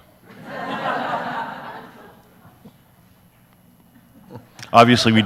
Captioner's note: audience laughs